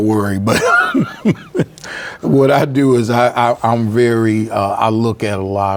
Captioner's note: laughs